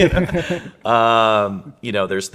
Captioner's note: laughing